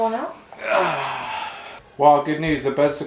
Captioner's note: groaning